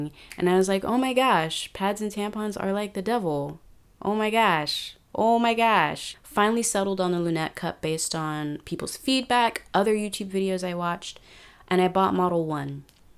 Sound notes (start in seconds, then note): 4.5 midwest accent intensifies